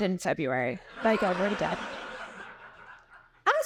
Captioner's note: audience laughing